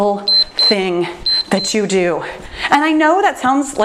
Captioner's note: timer beeps